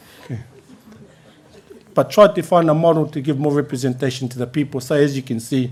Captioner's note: laughter